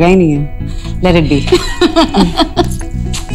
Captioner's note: Vandy laughing